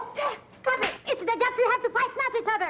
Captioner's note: hand slaps